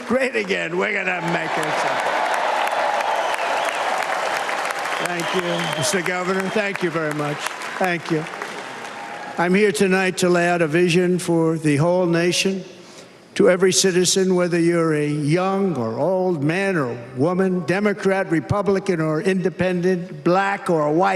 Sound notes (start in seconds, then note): 2.9 cheers and applause; 9.5 cheers and applause